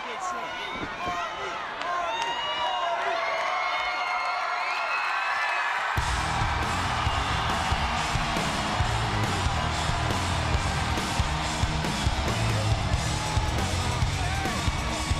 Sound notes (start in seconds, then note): 3.1 crowd cheers; 7.9 electric guitar music plays; 11.1 crowd shouts and cheers